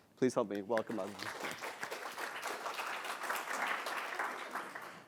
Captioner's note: applause